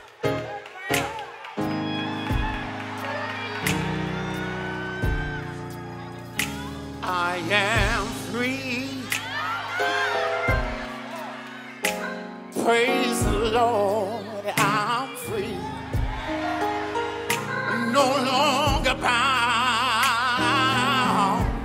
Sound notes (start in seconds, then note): 1.2 few applauding and screaming; 9.2 cheering and affirming